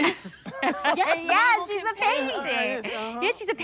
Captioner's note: all laughing